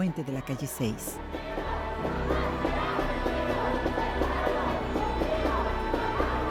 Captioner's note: chanting in foreign language